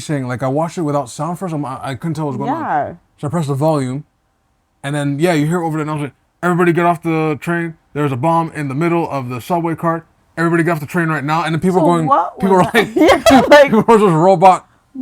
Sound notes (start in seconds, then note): 11.9 laughs